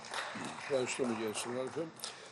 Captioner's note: Applause from New Democracy wing